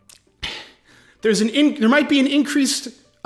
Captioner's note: satisfied sigh